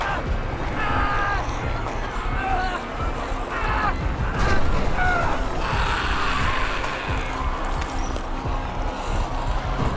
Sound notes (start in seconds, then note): 0.7 homestead member screaming